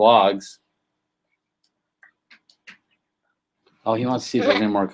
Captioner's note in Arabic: يهمس